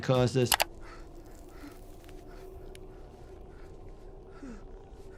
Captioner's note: mouse clicks; panting